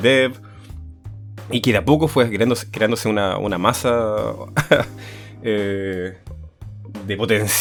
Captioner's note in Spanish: risas